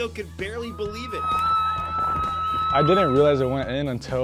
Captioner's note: team screaming